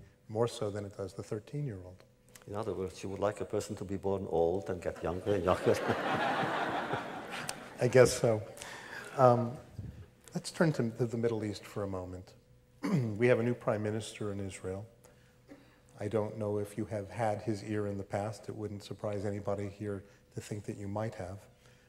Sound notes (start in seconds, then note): 5.0 laughter